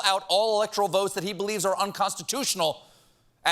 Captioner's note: none